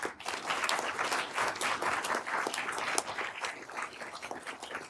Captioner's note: everyone applauding